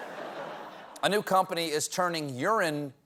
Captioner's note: laughter